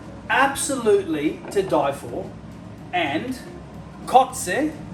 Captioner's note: speaking in a foreign language